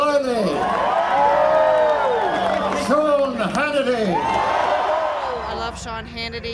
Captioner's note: cheering